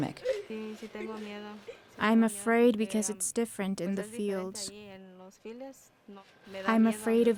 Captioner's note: through translator